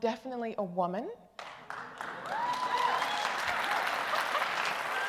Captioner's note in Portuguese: Aplausos